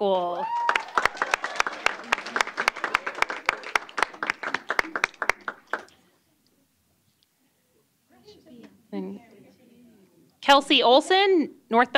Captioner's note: applause